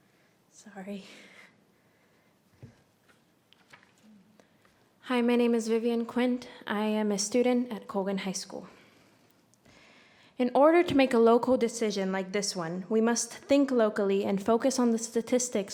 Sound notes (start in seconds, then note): none